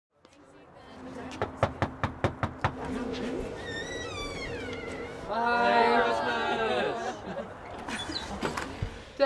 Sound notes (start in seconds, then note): 1.6 fist knocking on glass; 2.7 door squeaking; 7.9 door squeaking